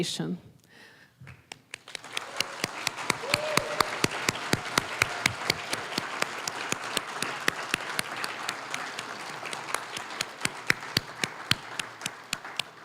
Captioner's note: applause